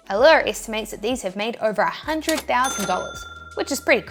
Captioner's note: cash register ringing